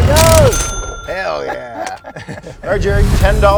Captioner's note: laughing